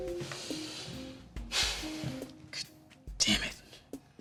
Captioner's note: sighs